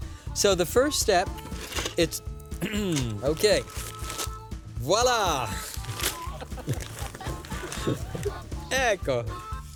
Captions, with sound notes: SO THE FIRST STEP, IT'S...HMM, OKAY. VOILA! [LAUGHTER] ECCO!